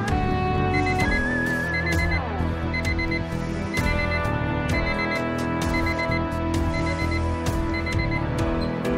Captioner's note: alarm beeps